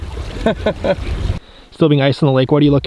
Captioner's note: laughs